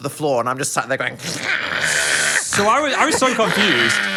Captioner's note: groaning